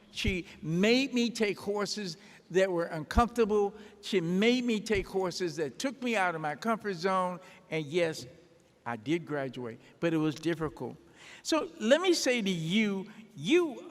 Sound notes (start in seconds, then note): none